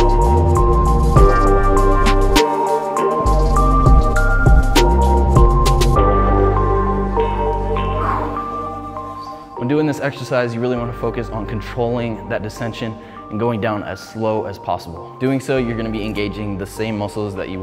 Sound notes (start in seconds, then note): 7.9 exhales